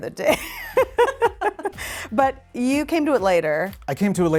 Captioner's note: laughs